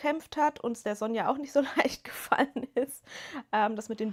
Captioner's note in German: gelächter